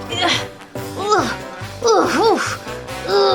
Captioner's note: grunting